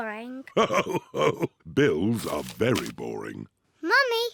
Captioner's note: laughing